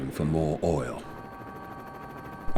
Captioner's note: helicopter blades whirring